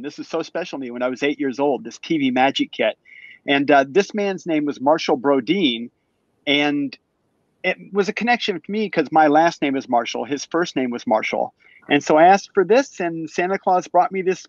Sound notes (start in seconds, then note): none